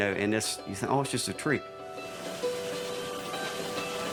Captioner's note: machinery whirring; appalachian folk music continues